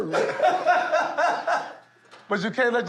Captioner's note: laughter